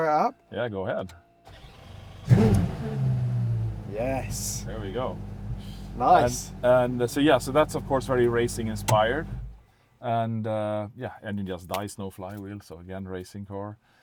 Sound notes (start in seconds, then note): 1.4 engine starts